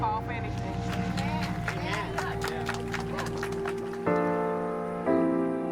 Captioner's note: crowd applauding